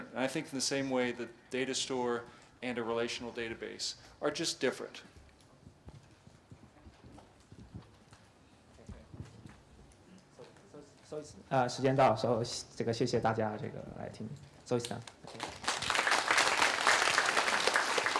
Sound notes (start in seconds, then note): 4.9 pause; 9.8 speaking in Chinese; 13.6 applause